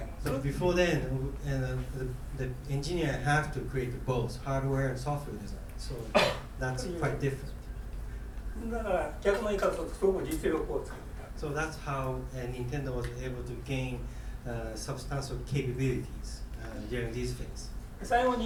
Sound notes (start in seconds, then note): 6.1 coughing; 8.7 speaking in foreign language; 18.2 speaking in foreign language